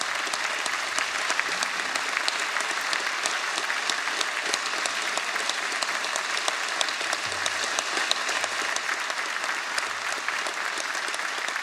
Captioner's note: applause